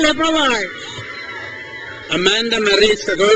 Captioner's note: crowd cheers